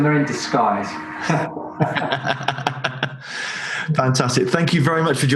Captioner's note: both laugh